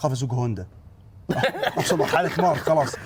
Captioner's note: laughs